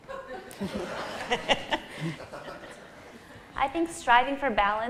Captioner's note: laughter